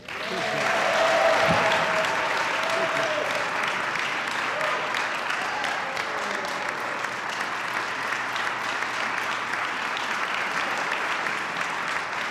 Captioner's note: applause